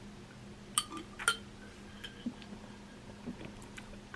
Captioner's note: glass clinking